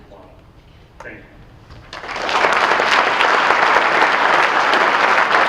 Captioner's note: audience applauding